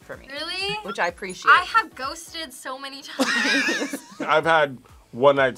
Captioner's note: laugh